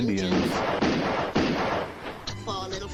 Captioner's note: gun fires